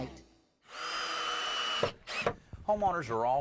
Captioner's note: drill whirring